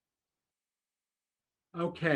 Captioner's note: silence